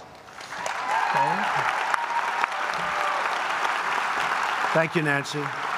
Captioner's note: applause